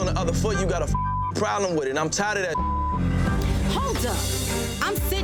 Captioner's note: beeps